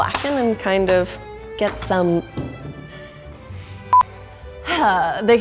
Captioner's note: beeps